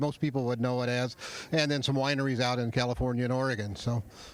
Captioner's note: laughing